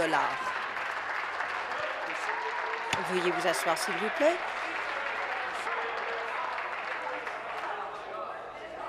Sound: applause

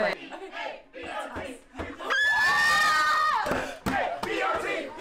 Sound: chanting, cheering, screaming

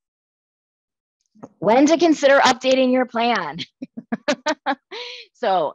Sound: laughs

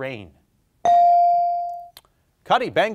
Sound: bell ringing

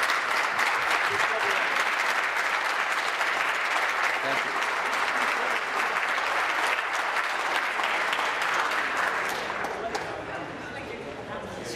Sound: applause

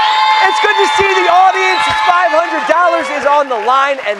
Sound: cheers and applause

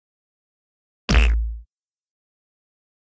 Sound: sound of splat

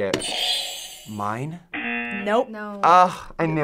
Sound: buzzer rings; buzzer

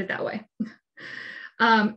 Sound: chuckles

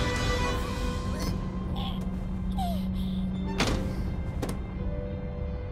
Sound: sigh

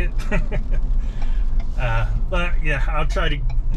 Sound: laughs

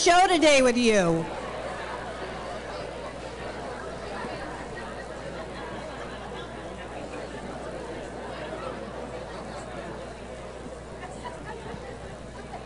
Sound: background chatter

